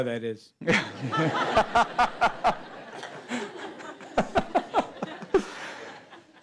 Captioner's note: laughter